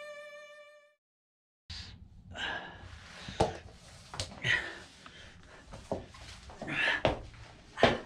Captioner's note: music fades; pained grunt; heavy breathing